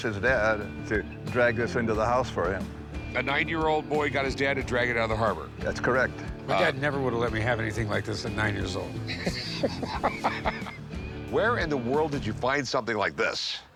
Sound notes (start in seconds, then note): 9.0 laughs